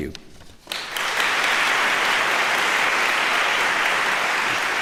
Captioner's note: applause